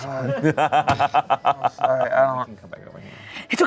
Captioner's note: laughs